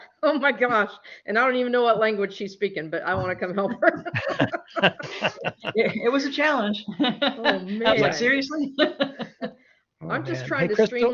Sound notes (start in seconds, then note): 3.6 laughter; 10.1 laughs